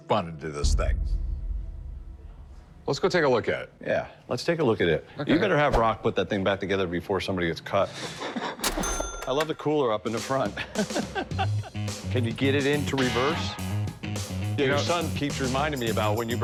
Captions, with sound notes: into this thing. Let's go take a look at it. Yeah, let's take a look at it. You better have Rocco put that thing back together before somebody gets cut. [cash register chiming] I love the cooler up in the front. Can you get it into reverse? Your son keeps reminding me about when you broke down,